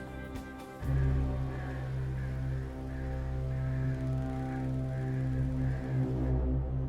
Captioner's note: foreboding music; crows cawing